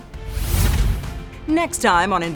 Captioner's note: air whooshes